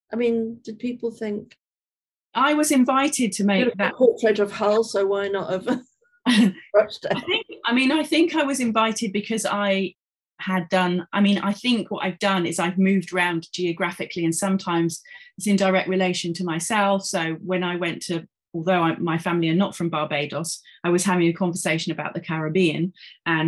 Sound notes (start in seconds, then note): 6.3 chuckling